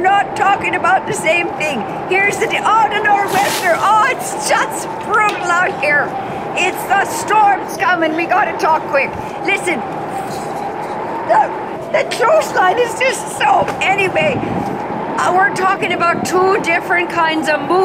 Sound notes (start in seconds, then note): 13.4 wind